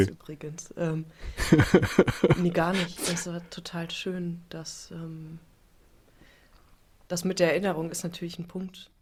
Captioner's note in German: gelächter